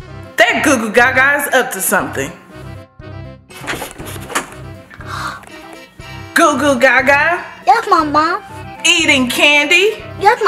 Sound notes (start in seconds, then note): 3.0 comical music; 4.2 door clicks open; 4.9 gasps